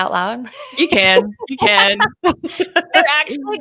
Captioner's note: laughing; both laughing